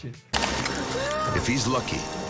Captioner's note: machinery whirring